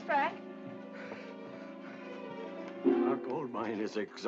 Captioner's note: Frank wheezing